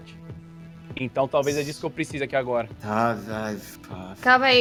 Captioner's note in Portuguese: Suspiro